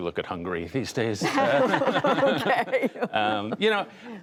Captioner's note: laughter